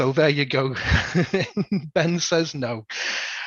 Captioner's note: laughs